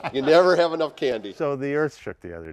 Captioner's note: laughter